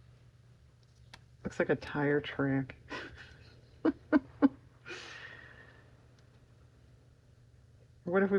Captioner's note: laughs